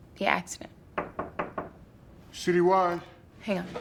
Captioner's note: soft knocking